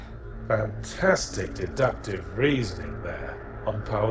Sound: voiceover

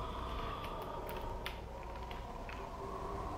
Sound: heavy breathing

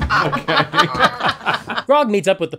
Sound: laughter

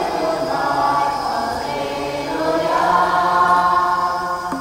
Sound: chating voices

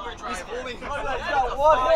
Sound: crowd chattering

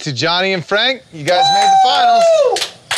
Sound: cheering

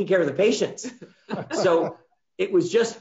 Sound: group laughing

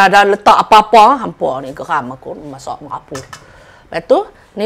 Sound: ranting

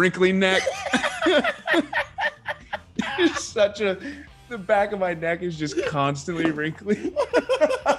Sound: laugh

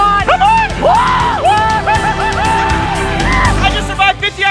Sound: all exclaiming

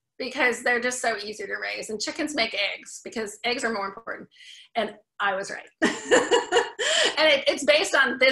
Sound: laughs

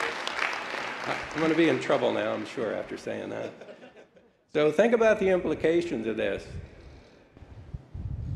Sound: applause

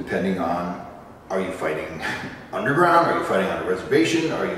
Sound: chuckle

